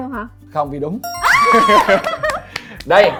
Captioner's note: claps